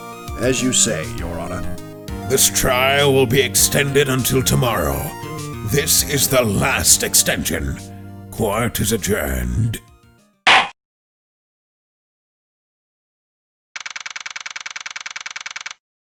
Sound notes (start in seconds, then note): 10.3 gavel slam!